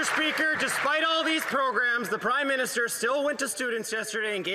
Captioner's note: some Applause